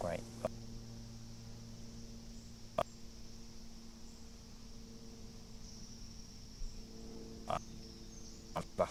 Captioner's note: break in transmission